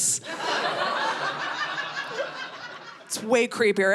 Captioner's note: audience laughing